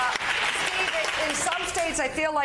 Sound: applause

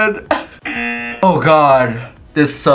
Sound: laughs; buzzer rings

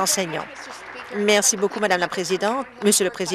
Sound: applause

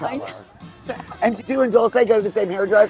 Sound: chuckles

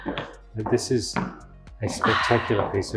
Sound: sighs

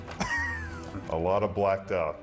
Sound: laughing

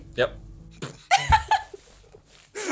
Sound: laughs

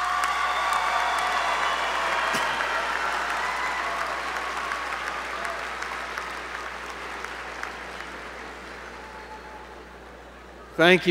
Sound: applause

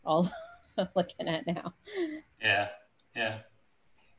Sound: laughs

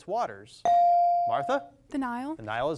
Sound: device dings

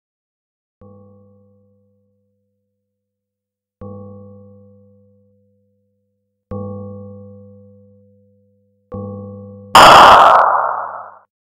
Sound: chilling sound

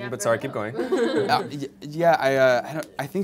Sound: laughter

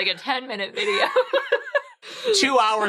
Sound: laughing

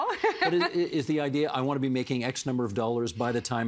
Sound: laughter

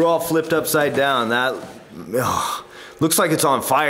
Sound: exclaims appreciatively

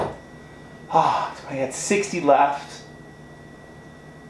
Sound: thuds; gasps

